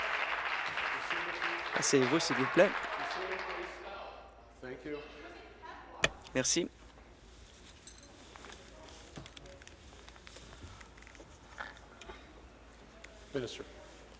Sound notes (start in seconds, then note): 2.0 applause